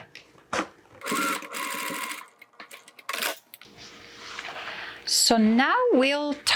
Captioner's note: machine whirring